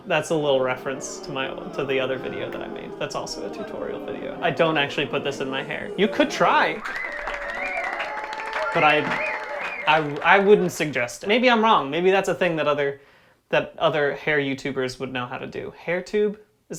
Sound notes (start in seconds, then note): 0.0 booing; 7.9 cheering